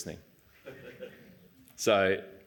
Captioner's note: laughter